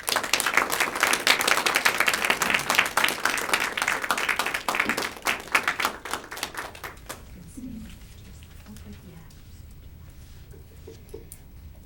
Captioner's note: applause